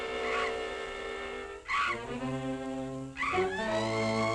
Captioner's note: bat shrieking